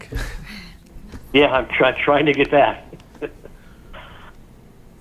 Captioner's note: laughs